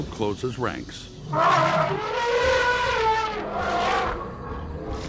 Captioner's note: triceratops trumpeting